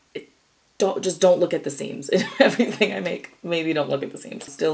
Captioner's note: laughs